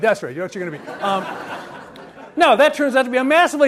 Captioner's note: audience laughs